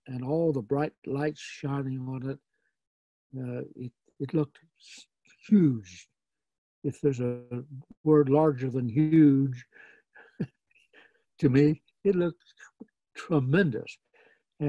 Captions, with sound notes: and all the bright lights shining on it. It looked huge. If there's a word larger than huge (laughs). To me, it looked tremendous.